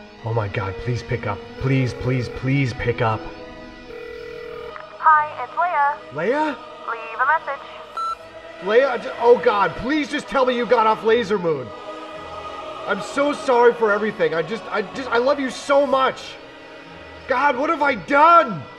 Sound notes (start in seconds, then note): none